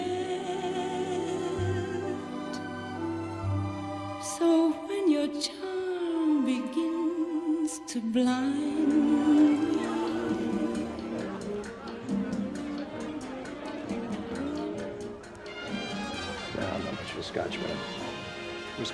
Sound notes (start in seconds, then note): 0.2 gentle music; 10.2 carefree music; 10.2 patrons chatter